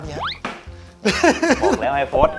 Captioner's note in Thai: หัวเราะ